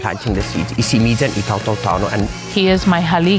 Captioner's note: in native chamoru